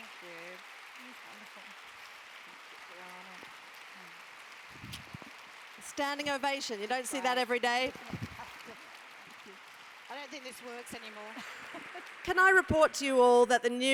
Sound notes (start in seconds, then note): 8.4 applause; 11.0 laugh